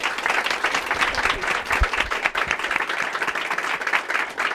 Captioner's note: applause